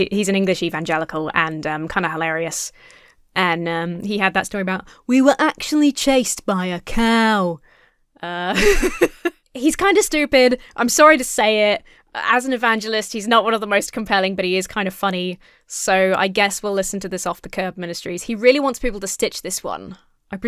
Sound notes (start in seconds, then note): 8.5 laughs